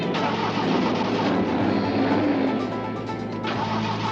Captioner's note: engine stalling; starting engine